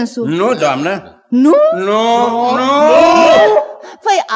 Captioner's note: everyone in chorus